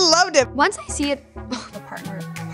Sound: voice breaking, gasps

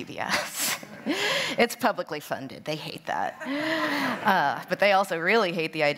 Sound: laughter

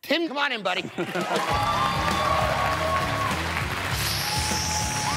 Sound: applause

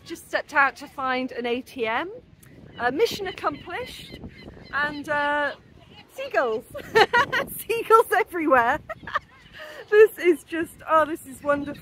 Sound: laughing

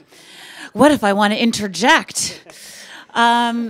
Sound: chuckles

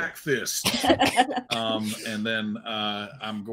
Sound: laugh

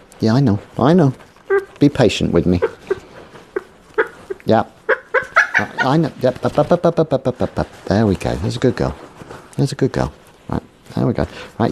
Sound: Paula clucks more angrily

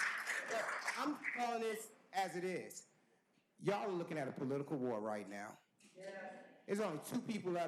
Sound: cheers and applause

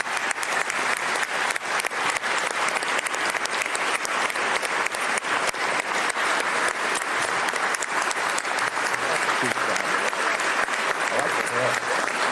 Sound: applause

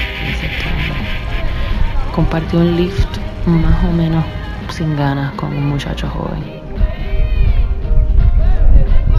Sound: spanish

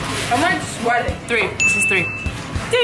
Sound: ringing sound

